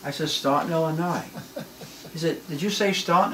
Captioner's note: laughs